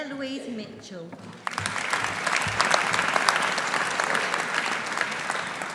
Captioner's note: audience applauding